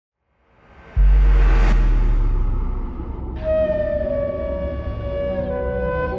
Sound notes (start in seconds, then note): 0.8 deep bass tone; 4.1 mystical melody